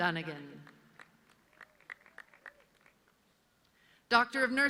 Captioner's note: audience clapping